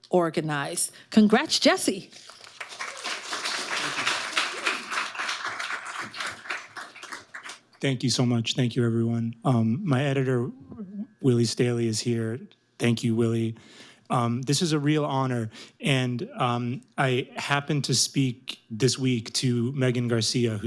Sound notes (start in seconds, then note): 2.3 audience applauding